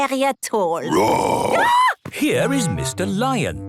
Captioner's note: roar, scream